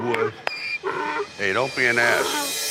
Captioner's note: donkeys braying